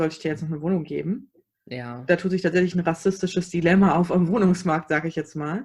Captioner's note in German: sarkasmus